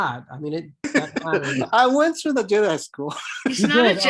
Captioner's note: laughs